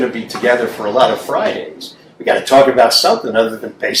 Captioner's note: none